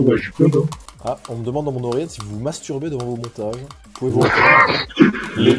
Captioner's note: laugh